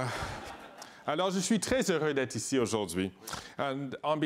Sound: laughter; speaking in French

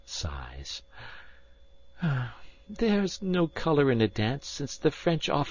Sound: sighs

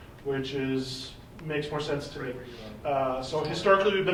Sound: faintly speaking

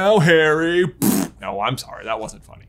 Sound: blows raspberry

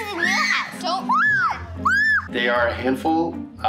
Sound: children screaming

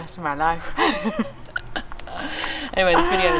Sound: both laugh

